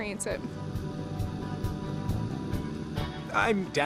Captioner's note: engine roaring